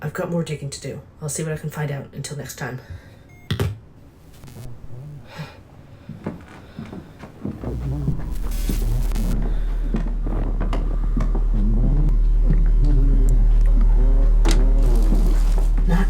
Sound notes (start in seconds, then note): 0.0 Static; 3.1 audio distruptions